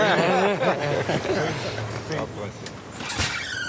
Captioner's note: laughter